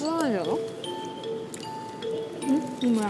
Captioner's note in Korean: 오물 오물